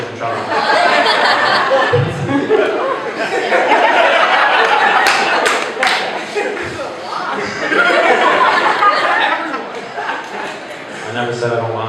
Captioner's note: laughter